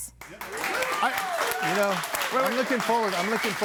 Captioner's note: audience applauding